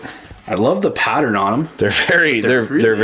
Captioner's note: voiceover